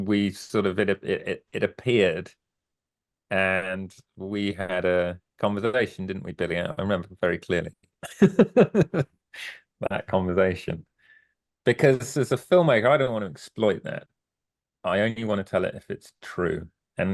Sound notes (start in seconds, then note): 8.0 laughs